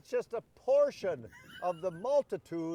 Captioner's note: laughs